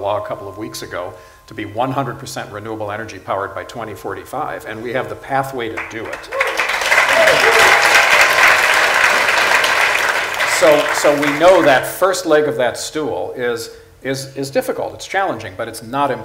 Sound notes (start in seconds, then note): 5.7 applause/Cheers